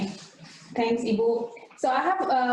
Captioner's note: speaking in foreign language